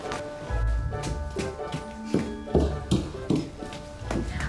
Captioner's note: fast footsteps